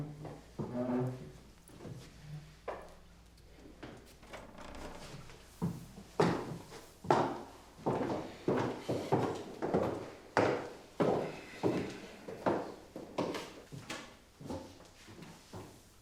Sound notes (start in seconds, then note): 6.2 footsteps plodding